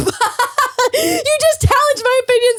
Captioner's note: laughs